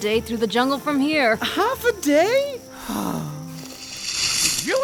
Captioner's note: sigh